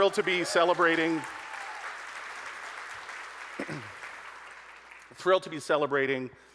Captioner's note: audience applauding